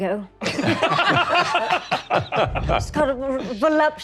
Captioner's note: all laughing